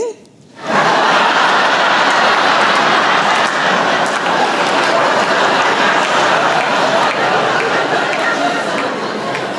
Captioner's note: laughter